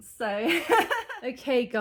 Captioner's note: laughing